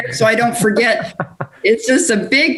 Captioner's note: laughs